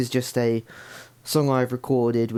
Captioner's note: inhales